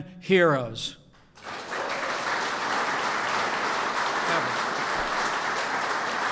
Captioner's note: applause